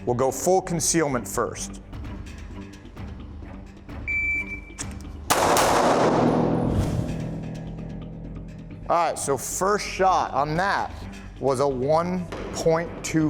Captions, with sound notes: We'll go full concealment first. (beeping) (gun shooting) All right, so first shot on that was a 1.24.